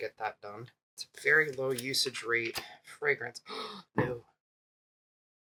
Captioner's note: gasp